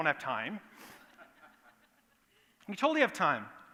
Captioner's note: laughter